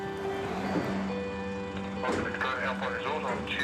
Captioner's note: engine rumbles